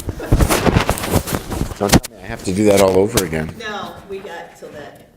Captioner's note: laughter